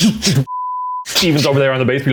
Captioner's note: drumming sounds; beep